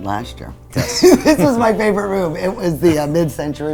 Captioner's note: laughing